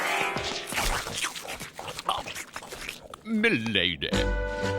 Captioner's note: munching